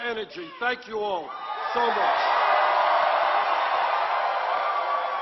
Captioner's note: applause